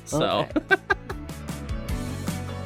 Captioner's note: laughs; background music